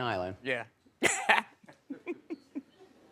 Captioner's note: laughs